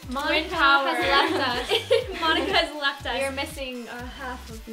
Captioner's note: laughs